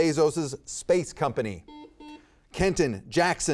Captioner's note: buzzer beeping